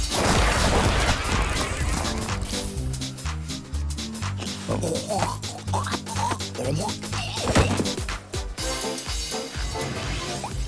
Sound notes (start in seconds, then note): 4.4 choking sounds